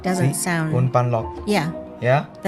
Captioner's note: Taiwanese